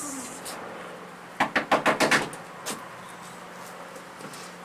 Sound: door knocking

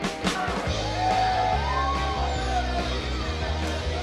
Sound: cheering

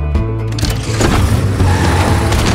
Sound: starts engine

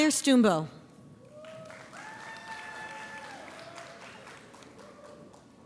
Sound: audience applauds

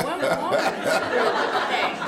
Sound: laughter

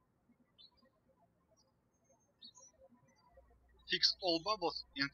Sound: birds chirping

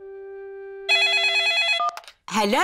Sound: phone rings

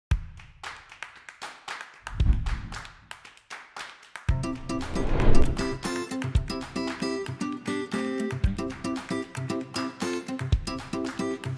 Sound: clapping, Music

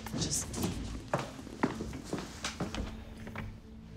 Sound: door opens

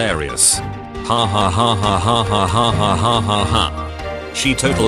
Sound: laughing

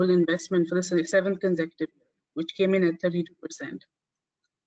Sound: audio static

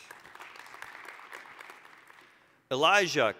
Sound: applause

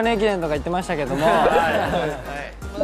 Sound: haha

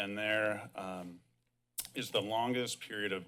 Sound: clicks tongue

